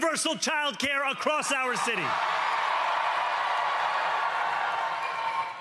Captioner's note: cheering